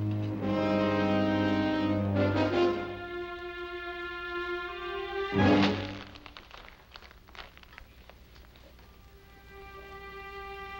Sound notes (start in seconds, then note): 5.3 paper crunching